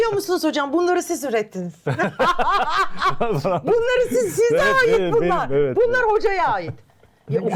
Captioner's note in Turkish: kahkaha